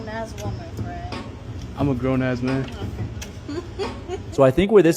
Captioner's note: laughs in frustration